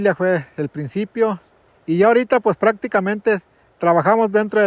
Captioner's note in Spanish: none